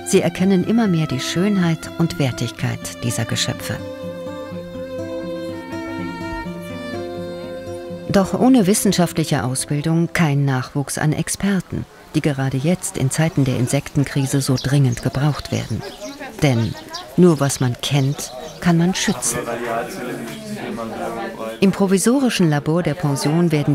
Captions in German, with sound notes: Sie erkennen immer mehr die Schönheit und Wertigkeit dieser Geschöpfe. (Bewegte Musik) Doch ohne wissenschaftlich Ausbildung kein Nachwuchs an Experten, die gerade jetzt, in Zeiten der Insektenkrise, so dringend gebraucht werden. Denn nur was man kennt, kann man schützen. (Stimmengewirr) Im provisorischen Labor der Pension